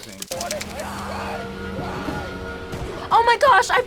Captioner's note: screams